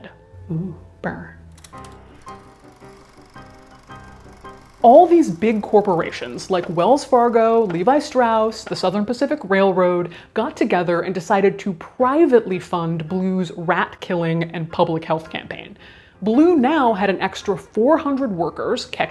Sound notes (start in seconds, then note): 1.6 projector whirring; 2.1 bouncy music